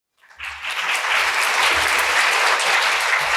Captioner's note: applause